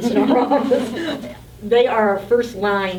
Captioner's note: laughing